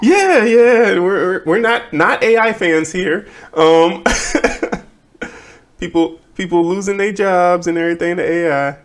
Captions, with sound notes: Yeah, yeah, we're not AI fans here. (laughing) People losing their jobs and everything in AI.